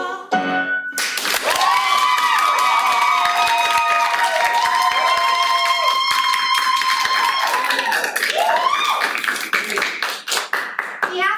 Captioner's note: applause